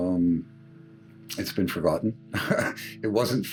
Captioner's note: laughing